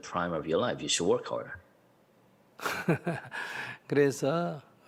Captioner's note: Sunim Laughter